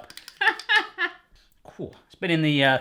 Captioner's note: laughing